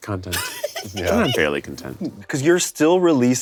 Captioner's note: laughs